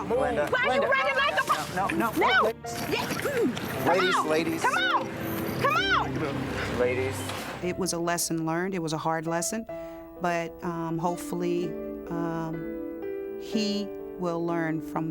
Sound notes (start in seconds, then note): 2.8 grunts